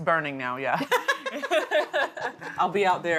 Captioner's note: both laughing